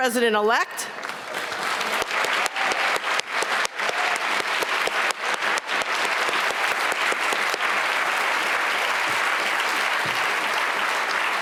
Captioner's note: applause